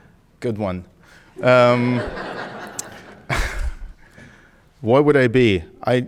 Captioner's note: audience laughing